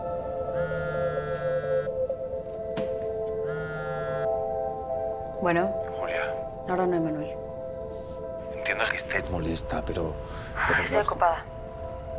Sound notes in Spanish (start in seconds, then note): 0.8 Vibra el celular